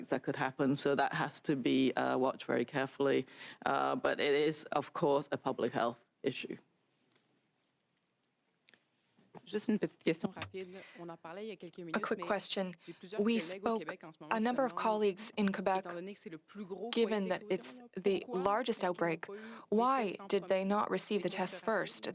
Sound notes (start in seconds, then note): 15.9 speaking French